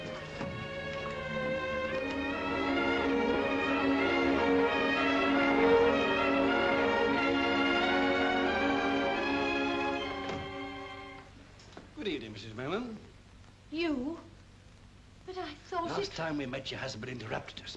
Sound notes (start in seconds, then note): 0.0 dramatic sentimental music; 10.1 doors open